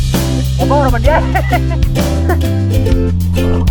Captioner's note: laughing